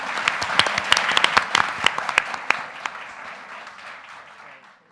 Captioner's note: panelists laughing; audience applauding